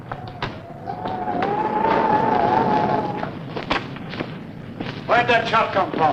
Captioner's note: thunder rumbling; wind howling